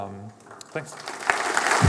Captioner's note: applause